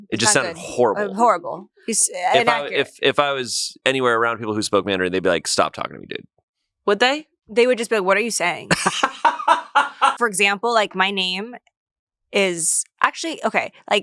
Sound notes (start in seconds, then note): 8.7 laughs